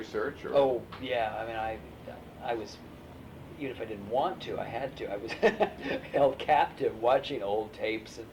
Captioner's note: laughs